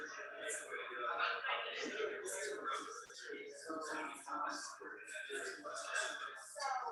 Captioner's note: people chattering indistinctly continues